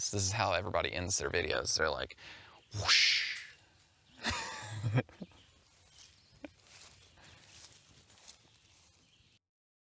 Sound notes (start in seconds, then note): 4.1 laughs to self